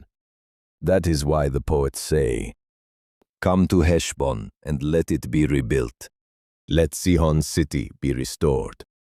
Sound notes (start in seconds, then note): 2.7 commanding; 8.9 sternly